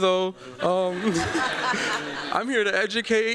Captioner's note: laughter